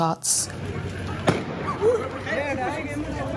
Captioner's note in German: Schüsse, aufgeregte Stimmen